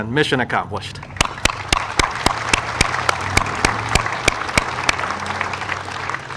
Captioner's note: audience and speaker applauding